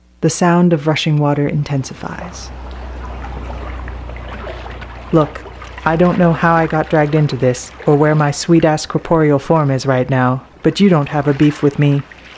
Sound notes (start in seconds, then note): 2.1 water rushing distantly